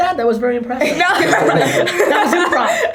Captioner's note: laughter by all